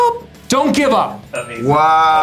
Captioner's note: singing; yells